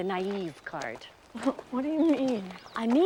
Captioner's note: chuckles